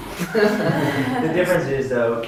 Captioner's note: laughs